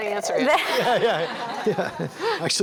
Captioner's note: laughter